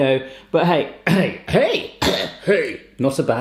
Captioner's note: coughs